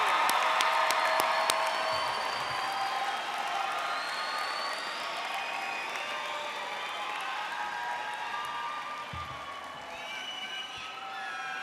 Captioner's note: applause